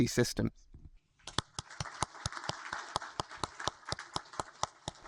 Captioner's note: audience applaud